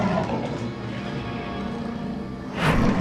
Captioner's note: growling